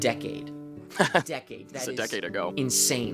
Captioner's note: laughs